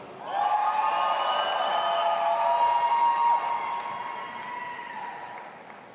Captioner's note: audience applauding and cheering